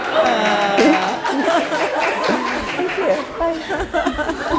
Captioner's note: applauding